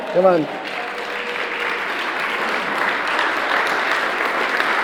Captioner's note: attendees applauding